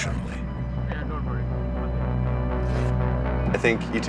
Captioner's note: cyclists chatting with one another